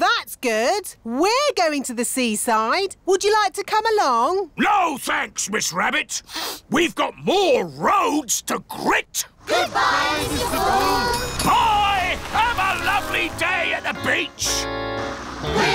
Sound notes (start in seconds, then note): 6.3 sniffs